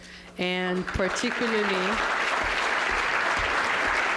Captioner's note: applause